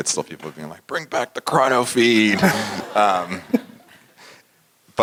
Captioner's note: laugh